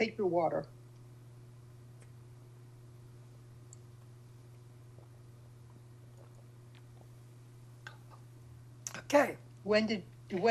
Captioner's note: drinking